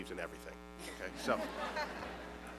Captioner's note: laughter